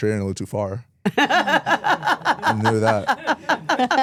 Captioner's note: Stephanie laughs